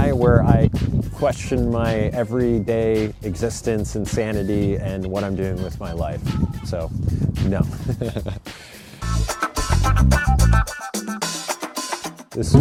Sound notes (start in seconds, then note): 7.8 laughs; 9.0 upbeat music